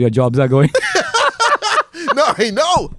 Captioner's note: laughs